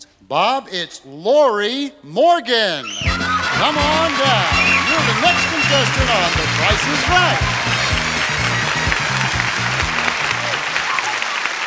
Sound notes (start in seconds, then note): 2.8 audience applauding; 2.8 upbeat music